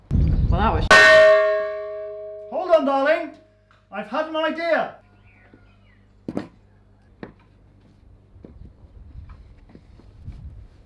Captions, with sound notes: Well that was.. (chash) hold on darling I've had an idea!